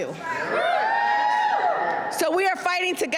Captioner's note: cheers and applause